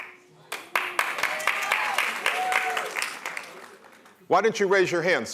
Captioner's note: applause